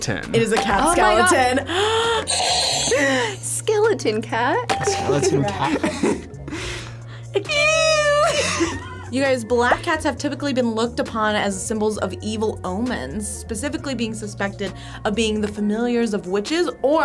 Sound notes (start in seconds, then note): 0.0 buzzer rings; 2.2 buzzer rings